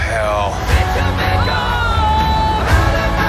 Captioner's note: screaming